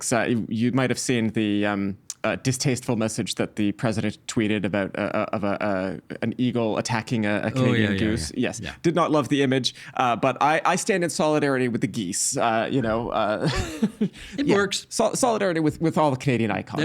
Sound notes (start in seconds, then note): 12.7 laughing